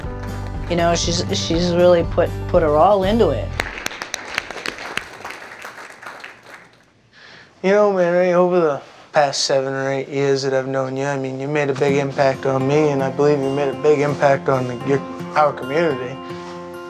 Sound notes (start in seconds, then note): 3.5 applause